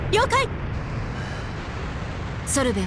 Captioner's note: tired sigh